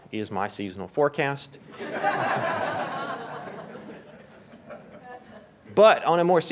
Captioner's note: laughter